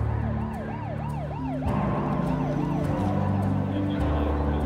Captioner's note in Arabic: صفارة الإنذار البعيدة